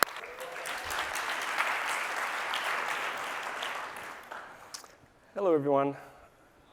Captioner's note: applause